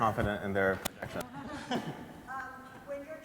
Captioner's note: laughter